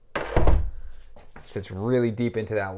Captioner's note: door closing